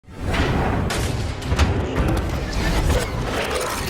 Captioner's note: abrasive clanking noises